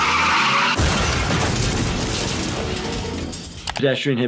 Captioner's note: wheels squealing; truck crashing